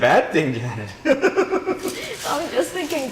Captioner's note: laughing